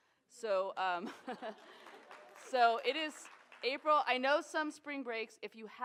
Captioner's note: applause